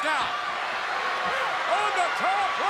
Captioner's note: crowd cheering